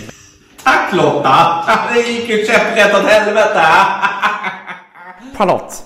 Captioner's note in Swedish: skrattar